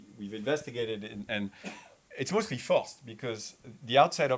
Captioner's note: attendee coughing